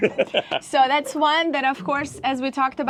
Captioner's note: laughing